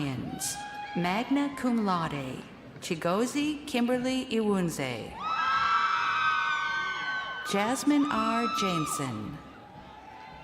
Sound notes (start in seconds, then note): 3.0 crowd cheering